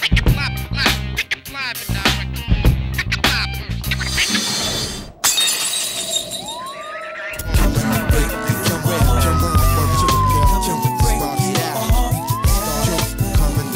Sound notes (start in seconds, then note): 4.0 screen screeching; 5.2 glass shattering; 6.5 siren blaring